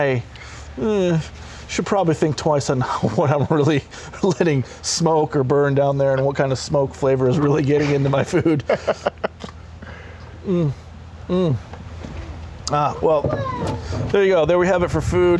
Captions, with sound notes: Yeah so it questions my... eh should probably think twice on what i'm really letting smoke or burn down there and what kind of smoke flavor is really getting into my food *laughs* mm, mm ah well there ya go, there you have it for food.